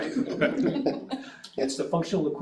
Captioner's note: all chuckling